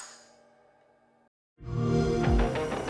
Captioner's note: xbox sound; electronic music